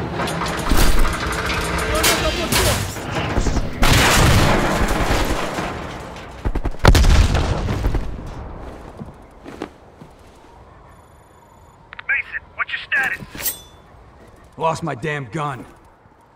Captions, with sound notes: (gunshots) Mason, what's your status? - Lost my damn gun.